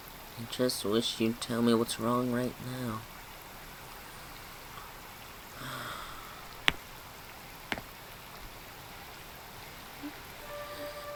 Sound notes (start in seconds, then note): 5.5 sighs